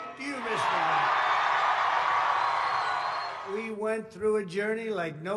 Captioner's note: applause